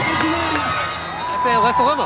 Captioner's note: crowd cheers